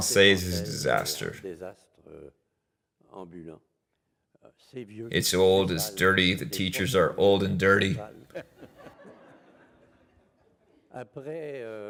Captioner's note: laughs